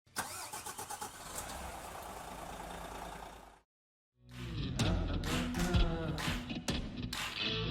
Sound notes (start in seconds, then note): 0.1 engine starting; 4.7 guitar playing